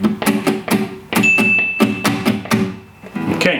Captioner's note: alarm Sounds